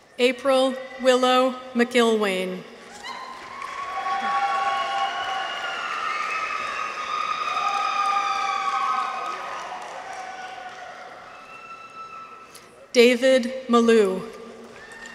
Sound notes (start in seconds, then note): 2.8 people cheer; 2.9 audience applauds